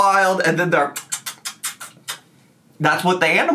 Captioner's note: lips smack